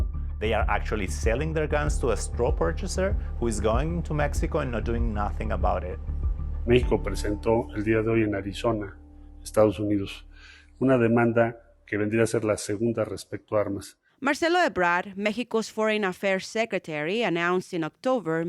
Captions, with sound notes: they are actually selling their guns to a straw purchaser who is going to Mexico and not doing nothing about it. [Speaking Spanish] (Voiceover) Marcelo Ebrard, Mexico's foreign affairs secretary, announced in October